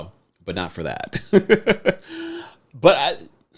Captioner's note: laughs